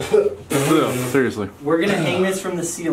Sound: coughing

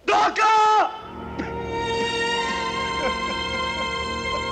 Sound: crying

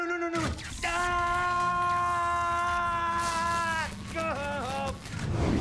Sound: Vigilante screaming

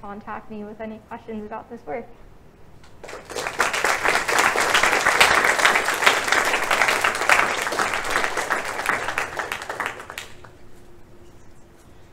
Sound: applause

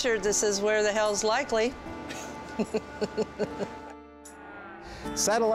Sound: laughs

